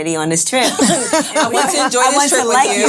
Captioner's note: laughing